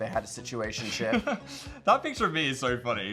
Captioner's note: Phil laughs